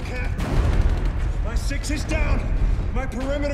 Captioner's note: rapid gunfire blasting